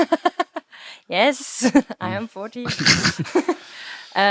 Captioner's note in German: lacht